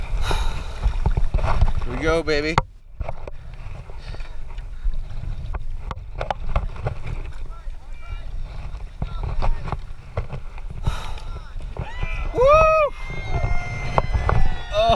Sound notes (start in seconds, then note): 4.0 shouting from shore; 7.2 sounds of paddling